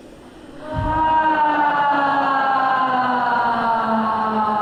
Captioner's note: loud sighing